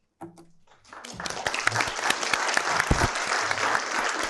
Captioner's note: applause